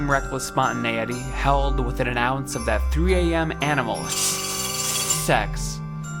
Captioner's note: buzzing